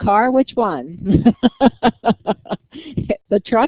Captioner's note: laughter